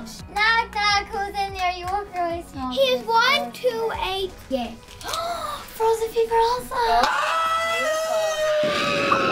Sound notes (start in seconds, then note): 5.0 gasps; 7.1 daddy screams